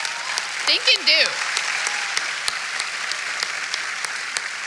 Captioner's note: applause